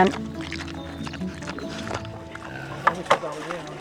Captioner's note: munching